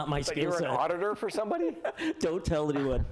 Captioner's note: laughter